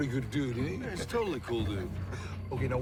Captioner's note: Jack laughs